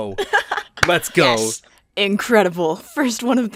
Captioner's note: laughter